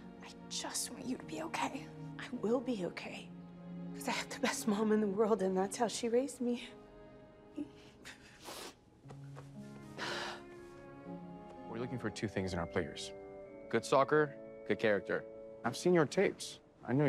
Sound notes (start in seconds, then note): 7.8 both sniffling; 7.8 tender music